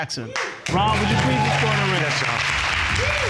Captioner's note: audience cheering